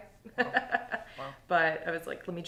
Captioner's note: laughing